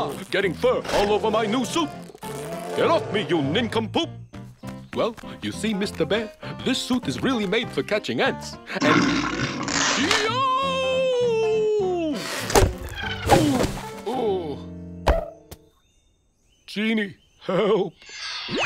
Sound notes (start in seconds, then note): 8.8 growls; 15.0 thunk